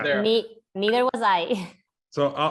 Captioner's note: laugh